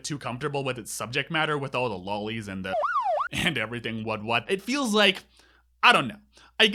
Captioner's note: police siren